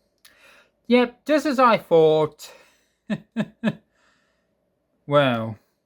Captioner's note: chuckles